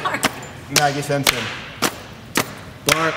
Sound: none

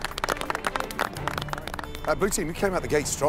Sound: applause

